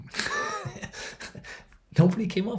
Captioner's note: laughing